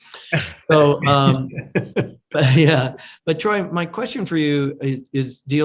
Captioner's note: everyone laughs; laughs